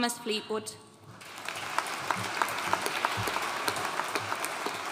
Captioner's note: audience applauding